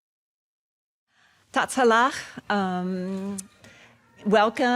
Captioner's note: speaks in foreign language